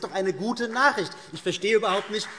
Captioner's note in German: Vereinzelter Beifall CDU und BÜNDNIS 90/DIE GRÜNEN